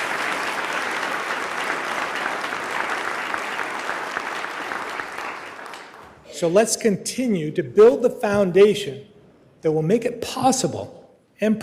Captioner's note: applause